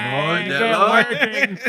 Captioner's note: non-english Speech